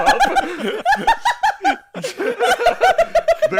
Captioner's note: laughter